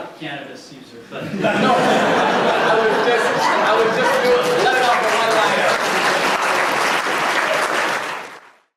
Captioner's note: audience laughter and applause